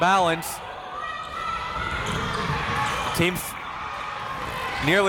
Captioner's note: crowd members shouting